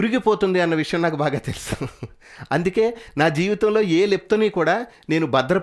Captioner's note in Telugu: నవ్వు